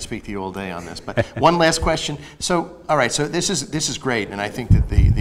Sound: laughs

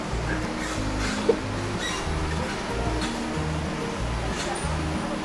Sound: bar screeching

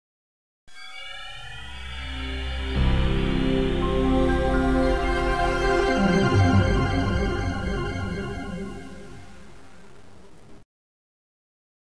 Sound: Microsoft Windows NT Startup Sound Plays

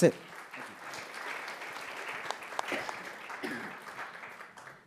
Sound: audience clapping

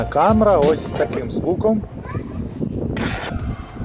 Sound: a good voice, a little wind noise

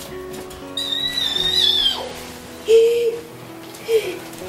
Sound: squealing

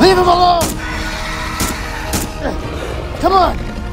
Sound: shots fired

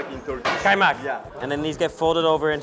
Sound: foreign language

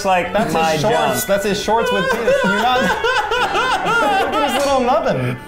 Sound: laughter

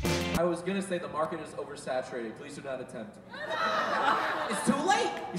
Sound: laughter

